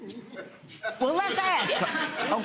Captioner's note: audience laughing